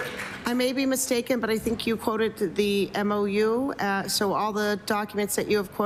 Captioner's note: applause